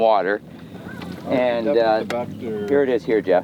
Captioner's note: mumbles